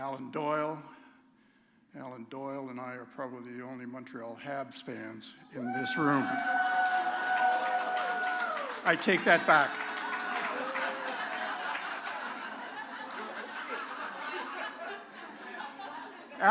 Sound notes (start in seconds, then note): 7.3 cheering; 11.9 laughter